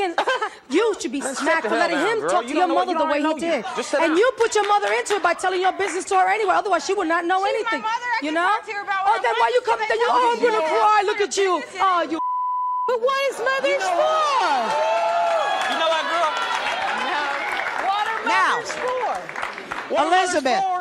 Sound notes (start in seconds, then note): 12.2 beeps; 14.4 applause